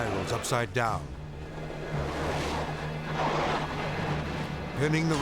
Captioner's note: bobsled whirring